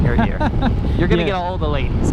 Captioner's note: laughs